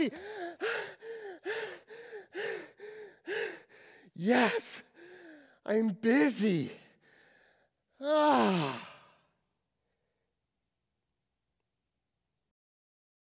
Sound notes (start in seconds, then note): 0.0 heavy breathing; 6.8 heavy breathing